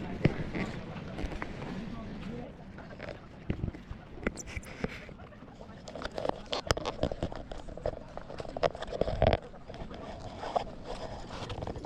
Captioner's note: sound of Nature